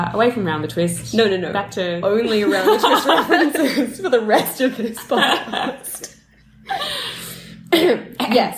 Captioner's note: laughter